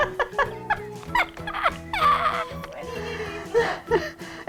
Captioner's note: laughing